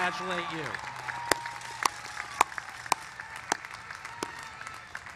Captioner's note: applause